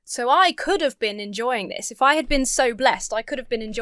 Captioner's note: none